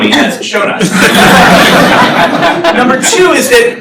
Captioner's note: laughter